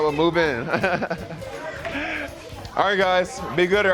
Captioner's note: laughter